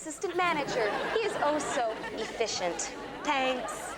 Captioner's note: audience laughs